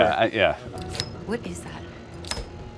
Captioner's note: object clacking